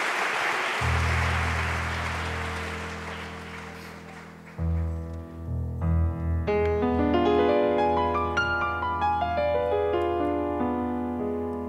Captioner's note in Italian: Applauso